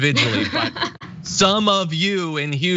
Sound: laugh

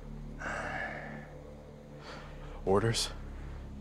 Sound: grunts

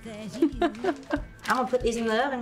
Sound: laughs

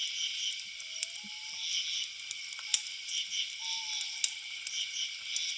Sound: animal howling

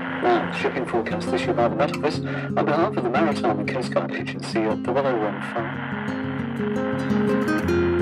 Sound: static

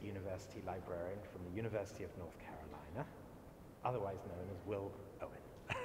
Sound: laugh

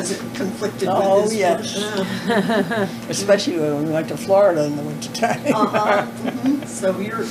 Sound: laughter

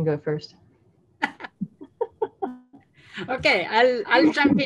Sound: laughing

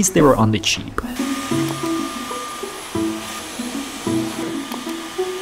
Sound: vacuum whizzing

